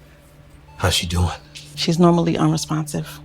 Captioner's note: heart monitor beeping